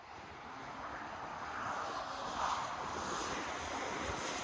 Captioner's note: wind whooshing